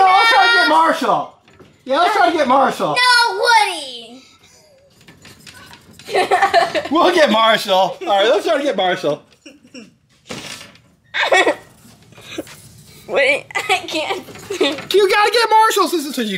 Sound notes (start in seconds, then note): 5.4 laughs; 11.1 laughs